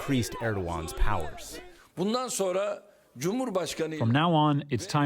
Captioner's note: through translator